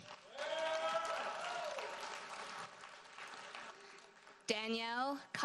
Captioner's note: audience cheers and applauds